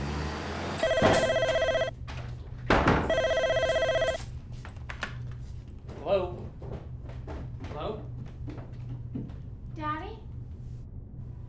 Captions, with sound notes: (phone ringing) - Hello. Hello? - Daddy?